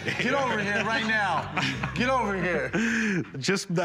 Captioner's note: laughs